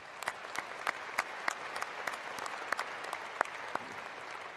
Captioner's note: cheering and applause